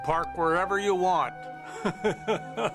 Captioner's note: laughs